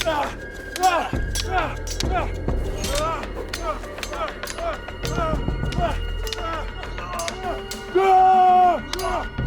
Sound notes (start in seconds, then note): 0.1 both moaning; 2.6 swords clanging; 4.9 dramatic music